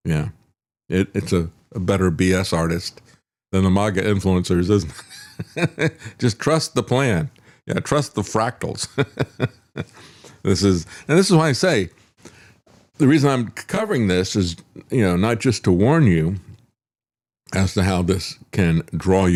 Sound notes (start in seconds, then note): 5.0 laughs; 8.8 laughs